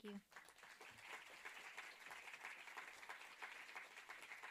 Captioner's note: audience applauding